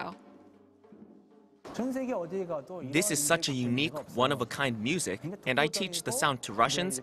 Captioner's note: Korean